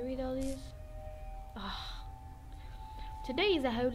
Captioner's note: big sigh